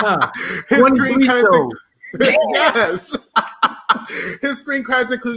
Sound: laughs

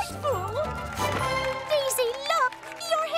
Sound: cheering

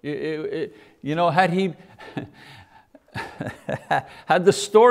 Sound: laughs

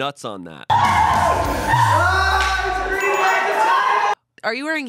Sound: everyone laughs

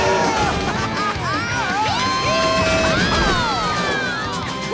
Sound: cheering

